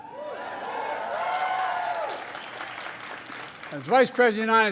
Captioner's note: applause